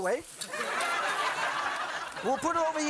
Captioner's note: audience laughing